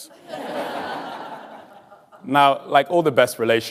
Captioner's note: audience laughing